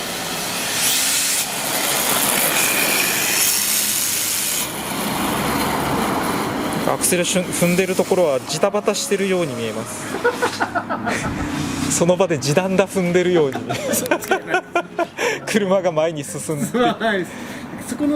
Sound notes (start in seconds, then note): 10.0 laughs